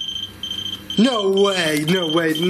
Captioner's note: machine beeping